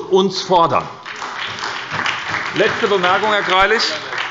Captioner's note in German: Beifall bei der SPD und der LINKEN